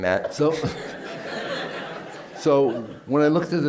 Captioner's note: laughter